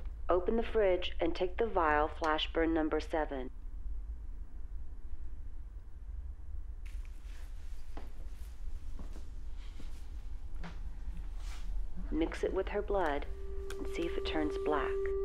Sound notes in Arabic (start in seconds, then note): none